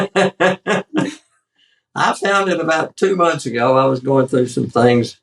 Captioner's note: laugh